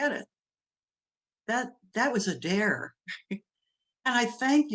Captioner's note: laughs